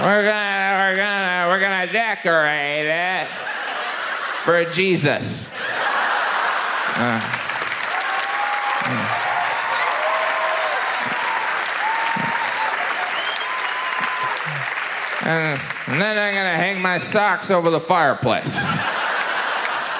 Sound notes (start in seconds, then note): 5.5 audience laughs; 7.8 audience applauds